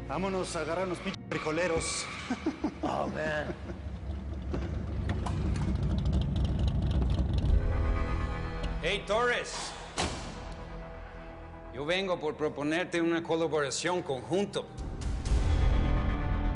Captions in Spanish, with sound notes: - VAMONOS A AGARRAR A UNOS PI--- FRIJOLEROS. [Risas] - !OH, HOMBRE! [Sonido del carro] - !EY, TORRES! YO VENGO POR PROPONERTE UNA COLABORACION CONJUNTO.